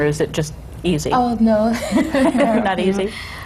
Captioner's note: laughs